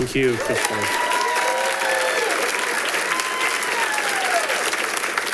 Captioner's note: audience applauding